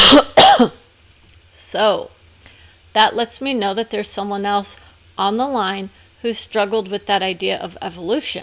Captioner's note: cough